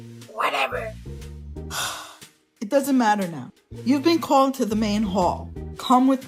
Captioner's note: sigh